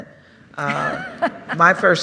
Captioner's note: laughter